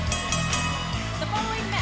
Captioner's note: bell ringing